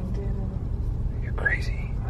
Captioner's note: whispers